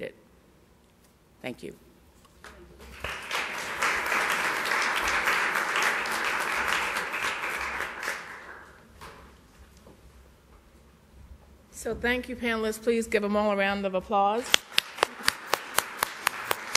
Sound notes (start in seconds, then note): 5.3 applause